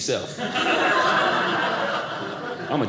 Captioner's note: audience laughing